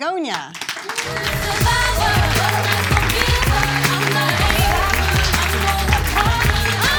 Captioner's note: audience claps; upbeat music